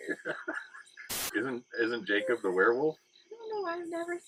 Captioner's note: laughing